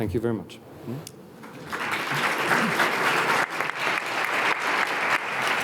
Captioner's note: audience applauding